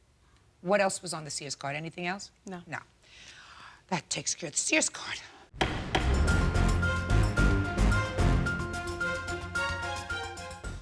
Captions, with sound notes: What else was on the Sears card, anything else? - No. - No. That takes care of the Sears card. (gavel banging) (dramatic music)